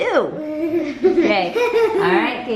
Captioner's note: laughter